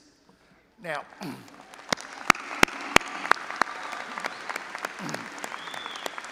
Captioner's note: all applauding and audience cheering